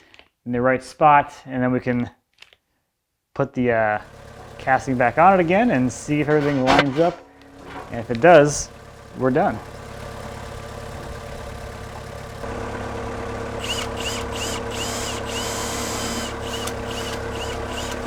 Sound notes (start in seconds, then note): 10.5 forklift engine rumbling; 13.6 metal screeching